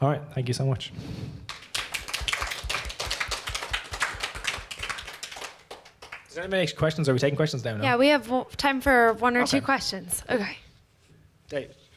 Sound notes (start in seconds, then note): 1.4 applause